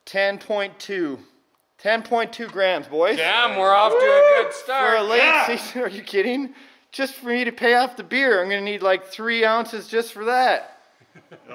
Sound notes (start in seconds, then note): 3.2 shouts; 6.8 chuckles